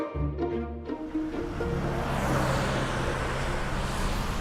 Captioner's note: cars zooming